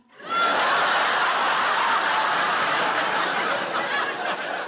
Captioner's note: audience laughing